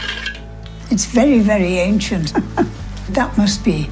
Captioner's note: laughs